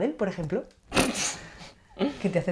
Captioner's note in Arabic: آنا تضحك